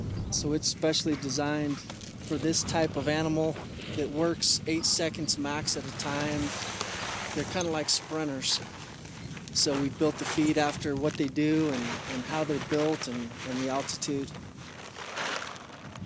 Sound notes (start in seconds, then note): none